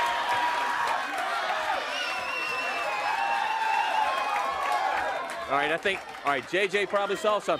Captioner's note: crowd cheering